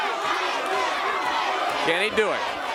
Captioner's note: crowd cheering